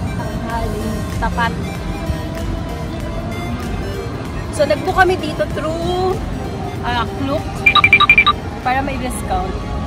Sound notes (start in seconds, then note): 7.9 tip toes